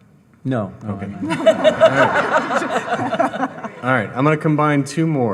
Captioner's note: all laughing